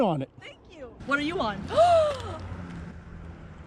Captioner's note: gasps